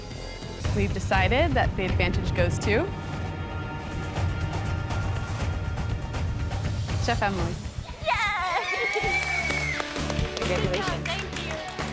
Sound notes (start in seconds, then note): 2.4 suspenseful music plays; 7.9 kids cheering